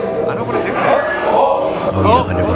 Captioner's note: exclaims